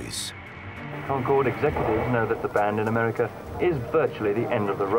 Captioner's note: radio voice